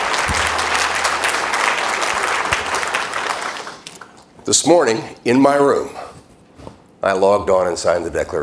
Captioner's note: applause